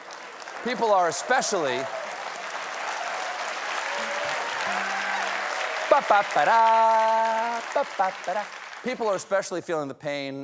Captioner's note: applause